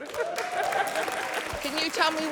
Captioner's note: cheering, applause